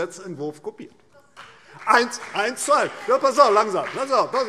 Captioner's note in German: Vereinzelter Beifall CDU und BÜNDNIS 90/DIE GRÜNEN - Zurufe